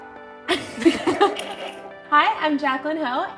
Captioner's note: both laughs